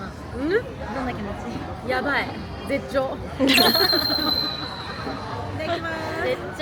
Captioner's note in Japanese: 笑い